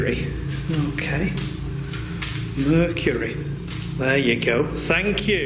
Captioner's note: loud beeping